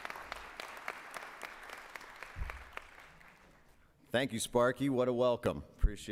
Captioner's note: applause